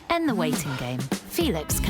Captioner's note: clock ticking